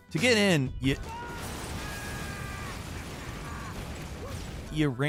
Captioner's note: Trevor screams